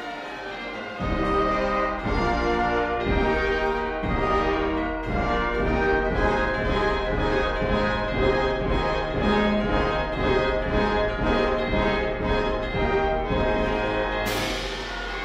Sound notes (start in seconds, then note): none